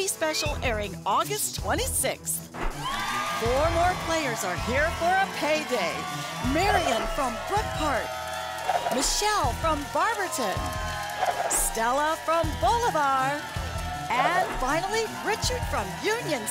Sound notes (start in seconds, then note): 3.3 audience applause